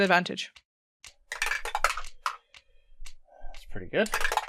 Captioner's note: Dice tower clacks